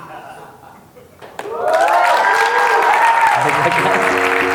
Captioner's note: applause